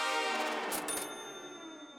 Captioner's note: cash register dings